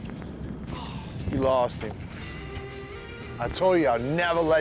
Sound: disappointed sigh

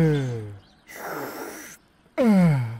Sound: slurping

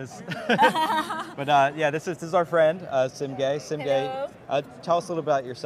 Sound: laughs

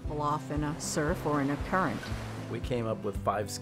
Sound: waves crashing

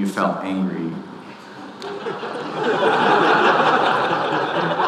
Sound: audience laughing

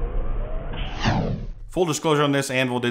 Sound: whooshing sound

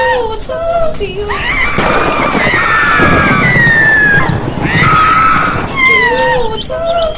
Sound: screaming

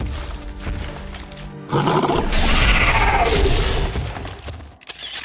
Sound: monsterous roar

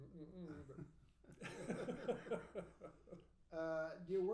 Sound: laughing

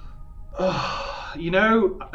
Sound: sighs

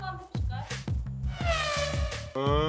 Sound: quick swipe

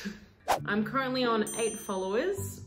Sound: air whooshing

